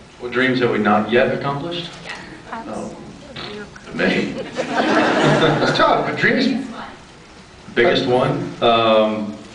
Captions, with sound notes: What dreams have we not yet accomplished? Yeah. Oh... [raspberry] many. [laughs] It’s tough, [laughs] but dreams-- Biggest one. Biggest one? Um... I--